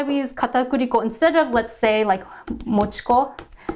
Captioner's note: speaking in Japanese language